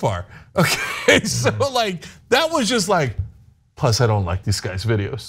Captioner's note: laugh